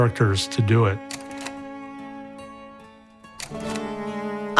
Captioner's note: camera clicks